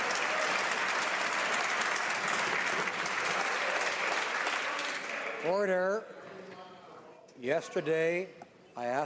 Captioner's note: some Applause